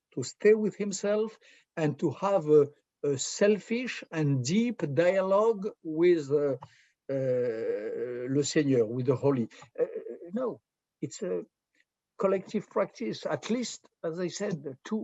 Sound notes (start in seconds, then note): 6.6 french